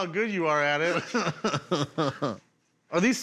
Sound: laughs

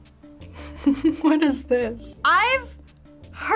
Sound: laughs

